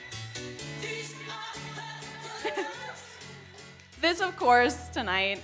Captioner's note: laughs